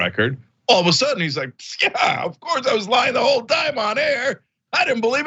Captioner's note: laugh